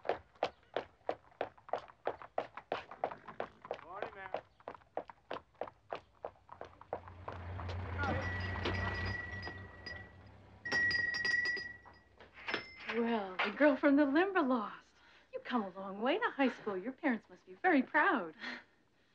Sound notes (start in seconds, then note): 7.7 bell ringing